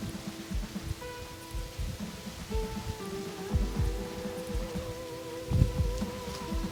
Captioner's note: grass rustling; wind whooshing